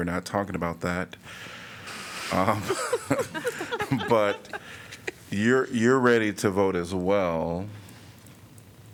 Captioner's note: laughter